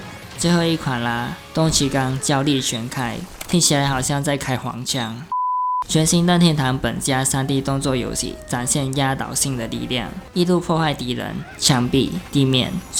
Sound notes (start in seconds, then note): 4.6 in Chinese Translate